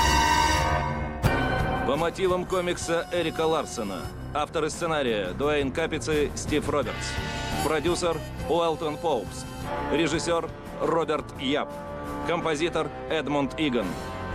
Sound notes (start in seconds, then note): none